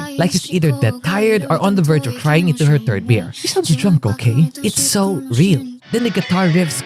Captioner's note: she sounds drunk okay